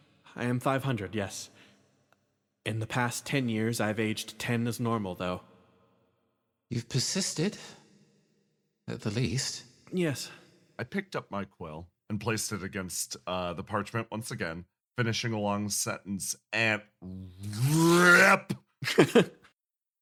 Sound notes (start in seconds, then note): 18.6 riiiiiiiiiiiiiiiiiiiiip; 18.8 chuckle